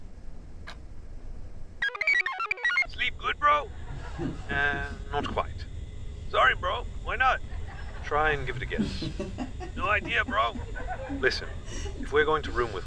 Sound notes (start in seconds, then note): 1.8 computer chirps